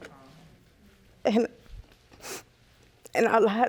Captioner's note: sniffling